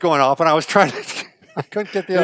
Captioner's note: laughs